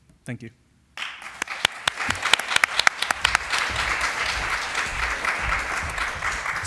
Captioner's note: applause